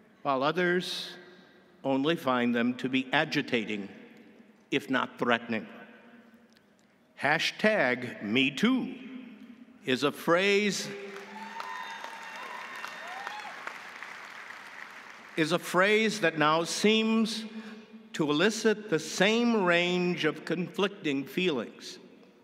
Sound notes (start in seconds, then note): 11.0 audience applauding; 11.1 audience cheering